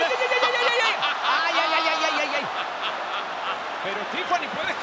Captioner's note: laugh